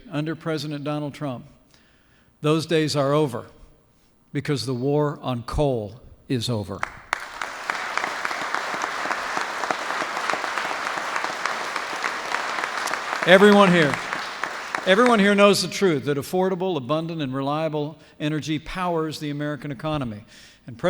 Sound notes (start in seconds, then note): 6.8 applause